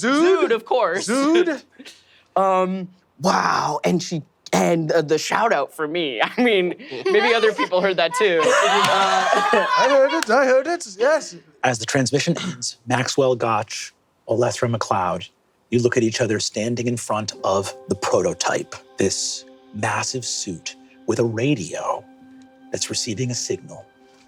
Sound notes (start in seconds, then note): 8.8 players laughing